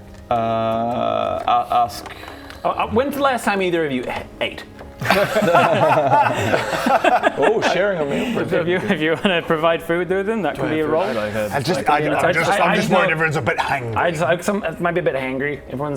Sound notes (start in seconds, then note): 5.0 hangry laugh